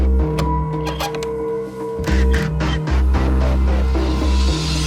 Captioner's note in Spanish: Sonido al abrir la puerta